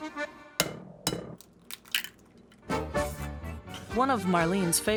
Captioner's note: upbeat music; egg shell cracking on side of bowl